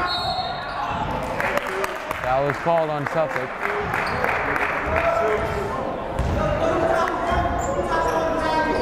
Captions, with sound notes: (whistle blowing) Foul was called on Suffolk. (yelling)